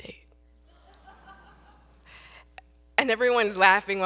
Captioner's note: audience laughs